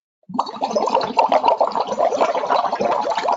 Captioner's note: bubbling